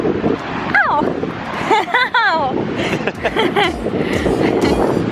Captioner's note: laughing